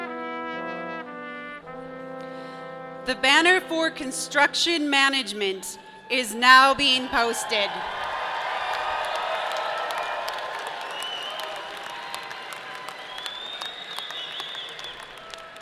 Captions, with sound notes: The banner for Construction Management is now being posted. (audience cheering) (audience clapping)